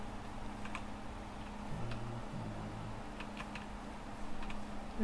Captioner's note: typing